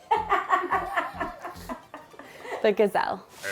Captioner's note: laughs